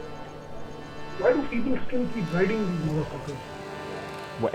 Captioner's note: motorcycles